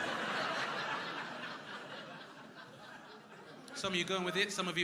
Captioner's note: crowd laughing